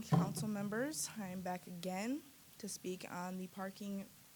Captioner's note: none